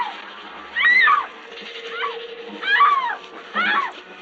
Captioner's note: screaming continues